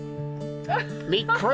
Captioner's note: laughter